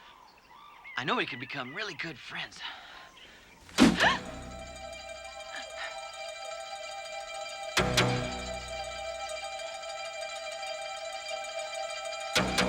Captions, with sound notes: I know we could become really good friends. (Taryn gasping) (dramatic music)